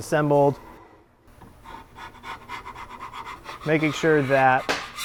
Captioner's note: wood scraping